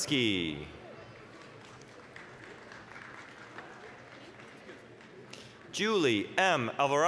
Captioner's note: applause